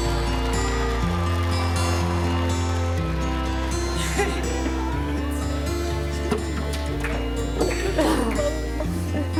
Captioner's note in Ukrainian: оплески